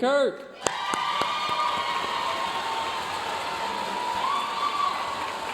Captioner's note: audience cheering and applauding